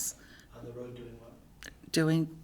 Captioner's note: voiceover